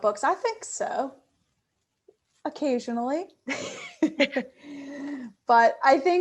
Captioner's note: laughing